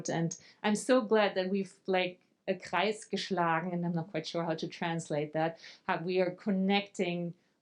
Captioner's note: speaking German